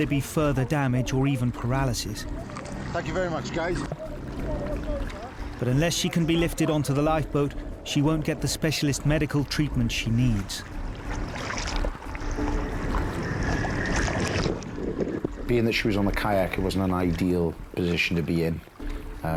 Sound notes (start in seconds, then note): 5.0 group member chattering; 11.5 water sloshing